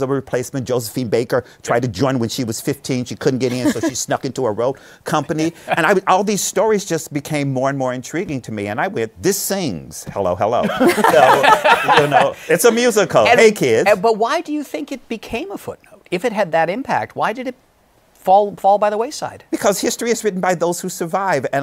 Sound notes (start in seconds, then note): 10.6 laughter